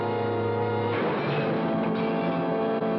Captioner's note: gunshot